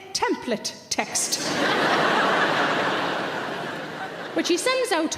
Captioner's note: audience laugh